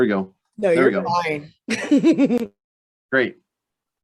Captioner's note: laughs